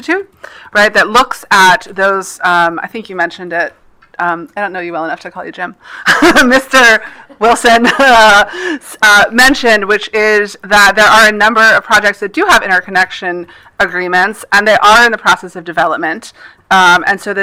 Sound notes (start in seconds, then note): 7.7 laughs